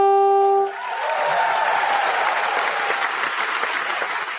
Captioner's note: audience applauding